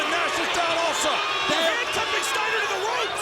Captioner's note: presenter speaking faintly off mic